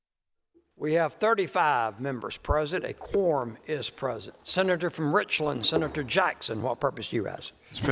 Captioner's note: pounding of gavel